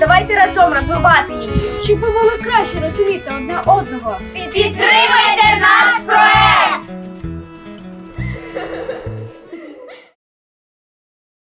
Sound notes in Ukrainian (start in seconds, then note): 8.2 дитячий сміх